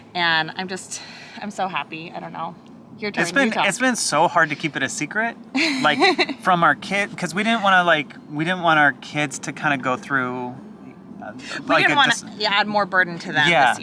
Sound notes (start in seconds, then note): 5.5 laughs